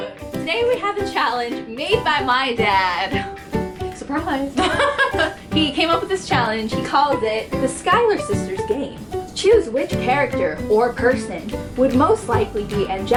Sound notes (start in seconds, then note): 4.5 chuckle